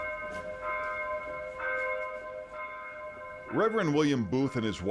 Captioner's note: bells ringing